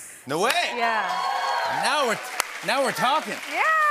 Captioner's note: cheers and applause